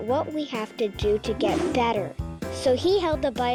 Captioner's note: whooshing sound